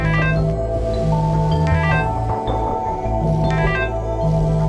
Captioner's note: phone buzzing and beeping